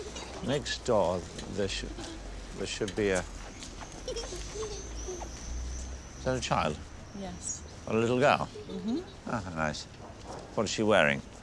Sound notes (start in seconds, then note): 3.6 children laughing